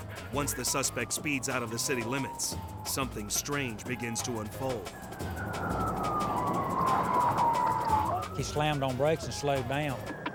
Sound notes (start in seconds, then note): 6.0 sirens blaring; 6.0 tires screeching